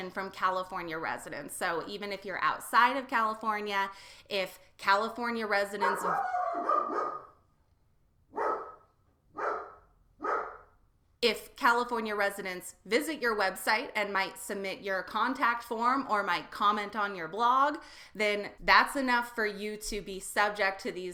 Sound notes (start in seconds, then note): 5.8 dog barking